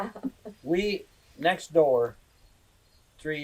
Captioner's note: laughter; laughs